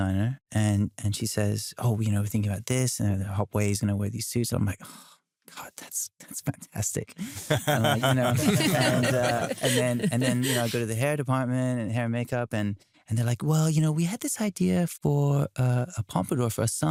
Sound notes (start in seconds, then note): 7.2 laughter